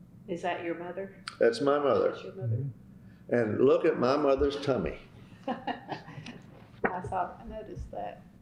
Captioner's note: laughter